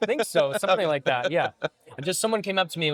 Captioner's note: laughing